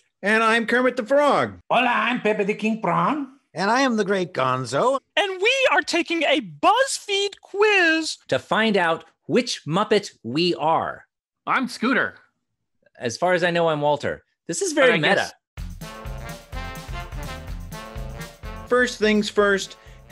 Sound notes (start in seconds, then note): 1.8 Pepper speaks in foreign language; 15.5 upbeat music